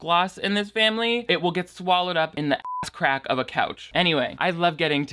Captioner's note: beep